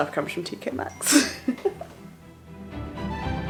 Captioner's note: laughing; lively string music